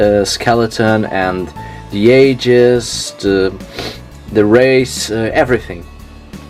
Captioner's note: sniffs